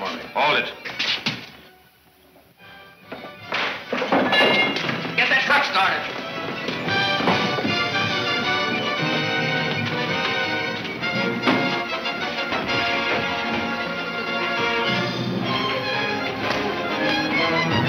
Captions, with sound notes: (cracking) (clattering) - Get that truck started. (exciting orchestra music)